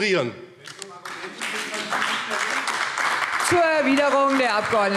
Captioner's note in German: Beifall AfD - Zurufe DIE LINKE